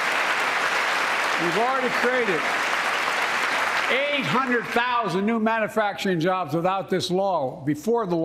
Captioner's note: applause